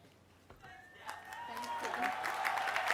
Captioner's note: applause